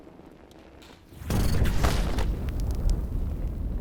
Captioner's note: flames roaring